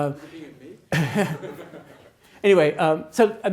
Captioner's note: attendees laughs